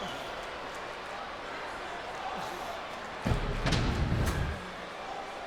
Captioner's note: audience cheering